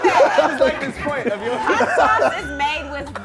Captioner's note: laughing